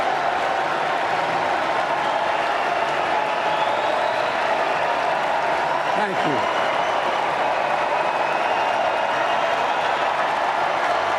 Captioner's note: applause